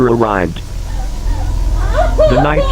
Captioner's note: maria crying